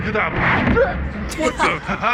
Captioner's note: groans